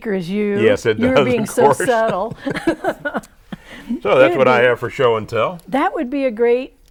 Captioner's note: laughing